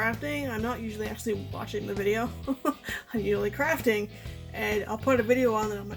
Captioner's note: laughs